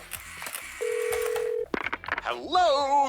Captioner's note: ringing tone